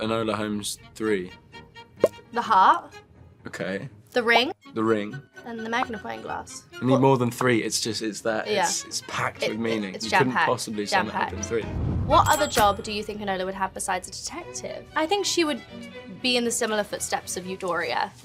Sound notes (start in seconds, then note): 1.8 bubble pops; 6.2 bubble pops; 11.6 air whooshing